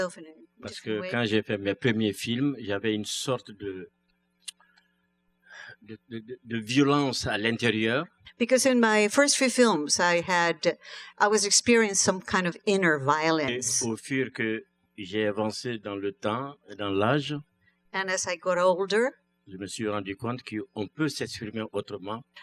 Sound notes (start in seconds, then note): 2.2 speaking french; 15.0 speaking french; 21.0 speaking french